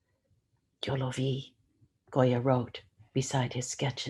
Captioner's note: speaks in foreign language